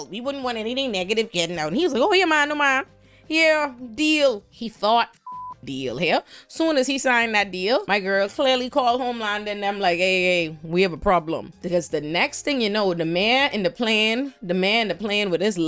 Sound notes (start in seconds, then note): 5.2 beep